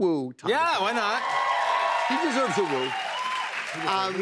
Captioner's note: cheers and applause